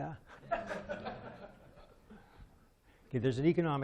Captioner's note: laughing